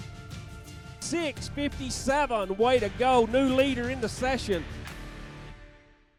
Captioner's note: voiceover